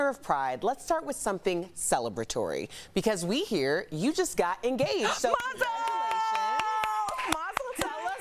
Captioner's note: applause